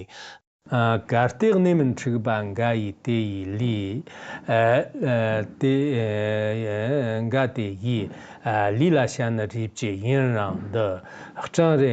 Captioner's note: giving oral transmission in Tibetan